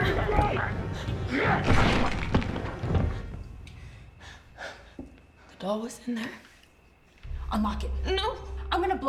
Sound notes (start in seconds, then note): 1.6 body thuds